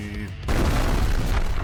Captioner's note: explosion